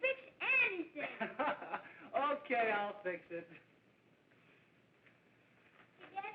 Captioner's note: laughs